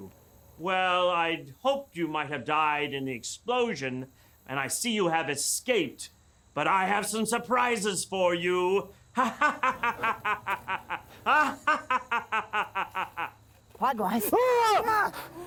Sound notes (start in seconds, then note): 9.1 evil laugh